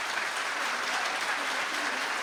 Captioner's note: applause